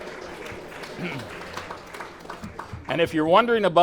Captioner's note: laughter; clapping